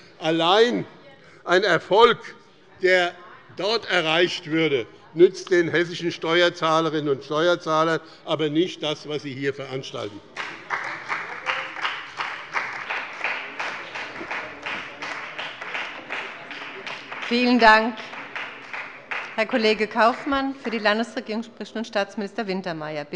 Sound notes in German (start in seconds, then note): 10.3 Beifall bei dem BÜNDNIS 90/DIE GRÜNEN und der CDU